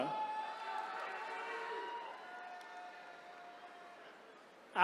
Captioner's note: attendees cheering